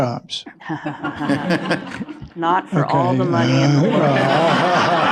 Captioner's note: laughter